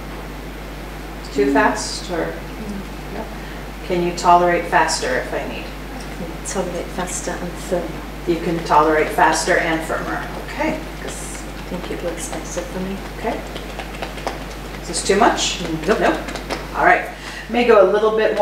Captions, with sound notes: Too fast? - No, no. - Can you tolerate faster if I need? - I can tolerate faster and firmer. - You can tolerate faster and firmer. Okay. - I think it works better for me. - Okay. (tapping fingers) Is this too much? - No. - No? All right.